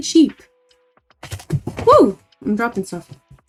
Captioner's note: something falls